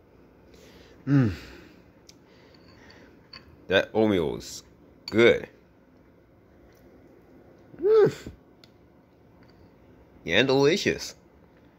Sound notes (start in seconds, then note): 1.0 sighs